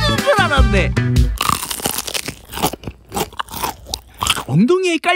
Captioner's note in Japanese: 実際に「60鶏クククチキン」を食べる音です